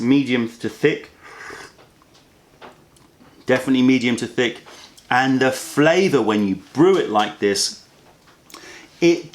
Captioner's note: sips tea